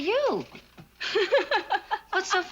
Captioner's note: laughing